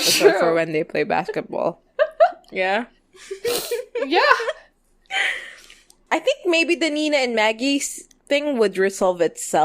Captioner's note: laughs